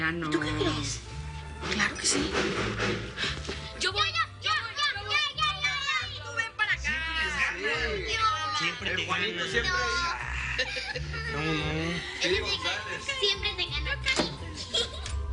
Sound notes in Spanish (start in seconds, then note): 3.0 Toques fuertes en la puerta; 10.2 Risas